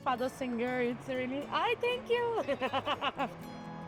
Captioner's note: laughing